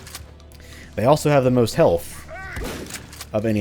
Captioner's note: boom